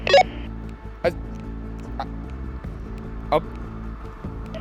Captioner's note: stuttering